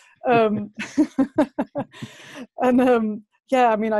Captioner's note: lacht